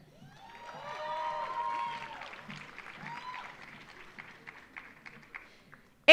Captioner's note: audience cheering; audience applauding